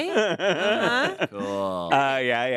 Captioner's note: laughs